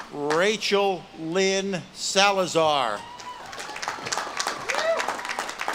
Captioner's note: audience claps and cheers